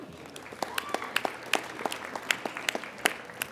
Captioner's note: applauding